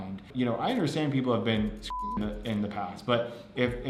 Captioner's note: beep